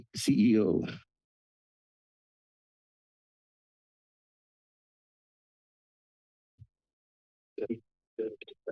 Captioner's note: silence